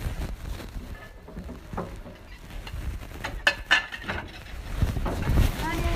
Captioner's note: knock